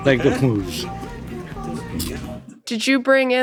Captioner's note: Frank muttering softly